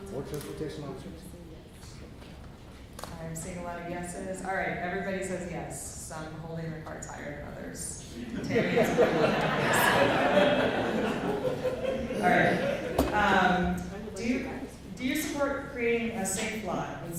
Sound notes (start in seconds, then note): 8.2 laughter